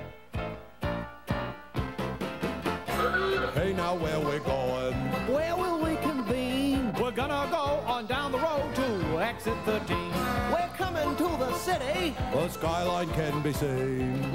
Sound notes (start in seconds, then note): 0.1 jaunty piano music; 3.0 car horn honks